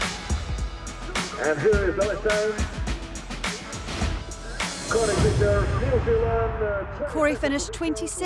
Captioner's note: announcer speaking